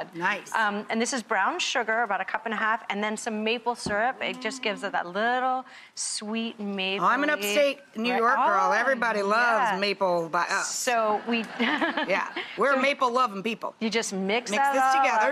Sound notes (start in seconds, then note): 11.2 laughter